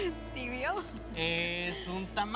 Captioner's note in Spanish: Riendo